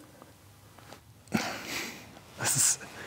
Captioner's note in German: Stöhnen